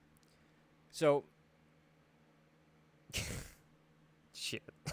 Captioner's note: laughs